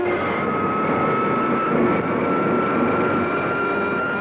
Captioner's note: comets zooming